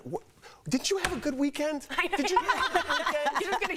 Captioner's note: laughter